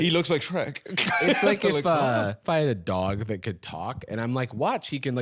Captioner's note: laughs